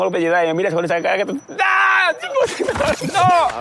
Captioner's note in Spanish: grita